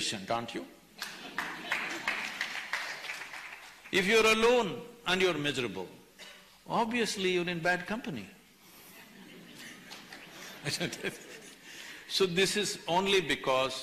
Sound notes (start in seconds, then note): 1.0 laughter/Applause; 11.5 laughs